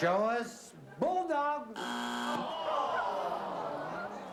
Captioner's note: buzzer